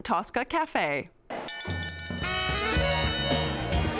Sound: ringing

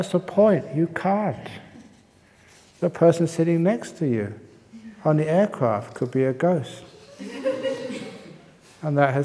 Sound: laughter

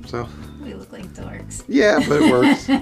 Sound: laughs loudly

